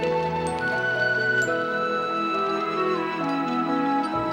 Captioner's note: birds chirping